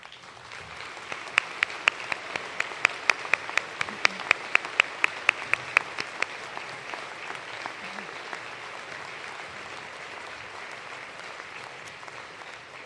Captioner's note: applause